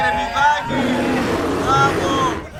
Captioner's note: lion roaring